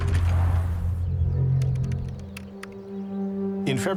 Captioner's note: mysterious music; computer keys clicking